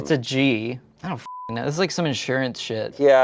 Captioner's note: beep